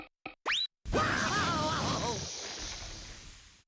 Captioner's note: Daffy crying